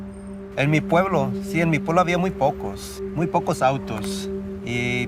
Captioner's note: gentle music; speaking in Spanish